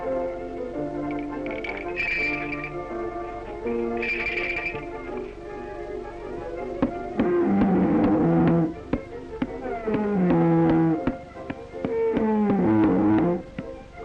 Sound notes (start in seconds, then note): 7.5 growling